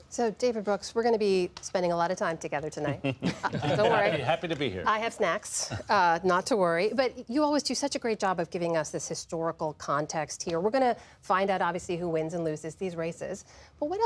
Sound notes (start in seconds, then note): 2.8 laughter